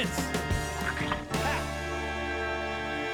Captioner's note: squish!